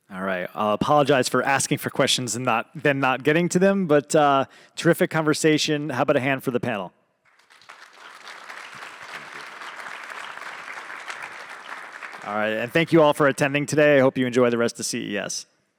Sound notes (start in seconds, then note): 7.2 audience claps